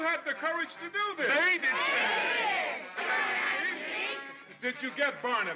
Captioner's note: mob clamors